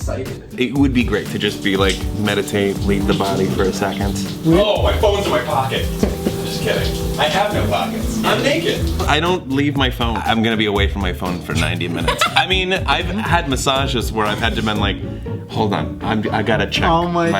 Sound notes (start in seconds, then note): 11.7 laughs